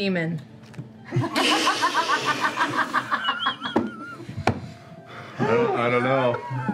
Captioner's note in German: Lachen